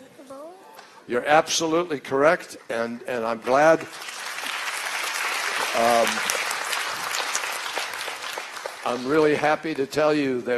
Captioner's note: applause